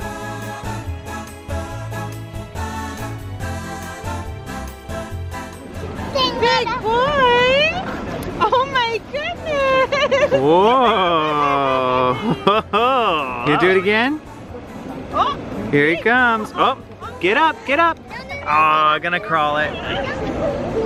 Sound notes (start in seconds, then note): 9.4 laughing